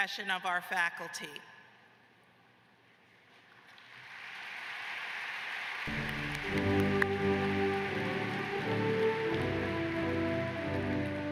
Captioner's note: applause